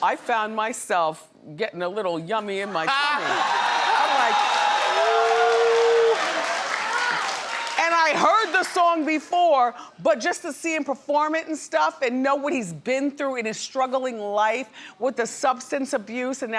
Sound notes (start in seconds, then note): 3.0 audience cheers